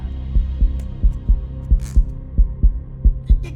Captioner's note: strong heartbeat sound